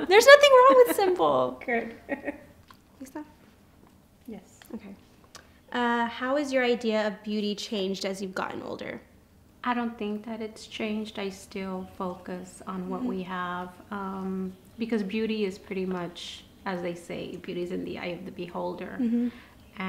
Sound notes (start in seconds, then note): 3.0 Spanish